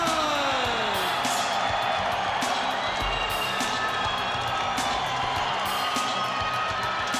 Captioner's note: spectators cheering; upbeat music